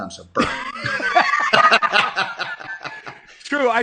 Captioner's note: laughing